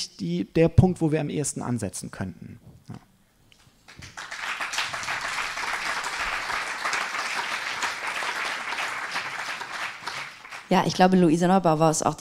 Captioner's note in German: applaus